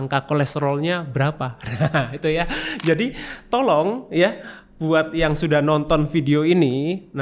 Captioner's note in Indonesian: tertawa